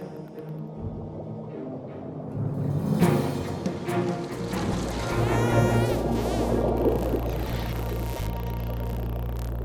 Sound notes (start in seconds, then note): 5.3 porpoises whistling